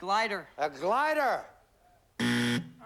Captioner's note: buzzer